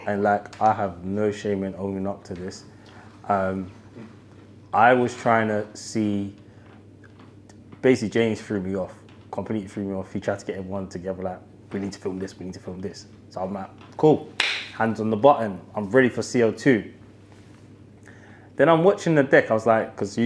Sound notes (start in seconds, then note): 14.4 claps